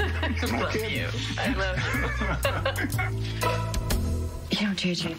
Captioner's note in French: laughter